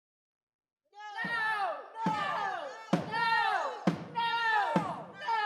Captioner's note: people shouting angrily